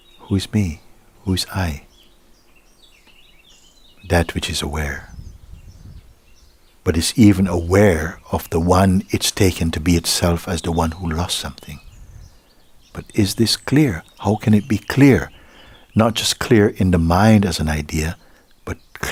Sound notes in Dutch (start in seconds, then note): none